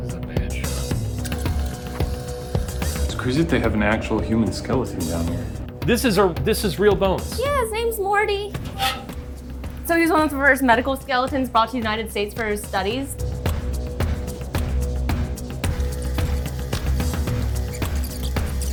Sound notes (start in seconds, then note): 1.7 tense music; 1.7 videotape squealing; 13.4 tense music